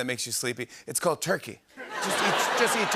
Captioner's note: laughter